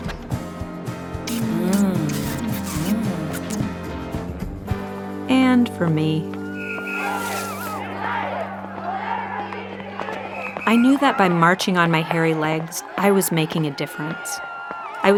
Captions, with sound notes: (moaning) And for me. (women chanting) I knew that by marching on my hairy legs, I was making a difference.